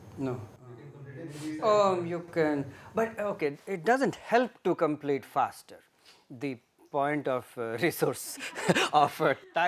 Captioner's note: laughter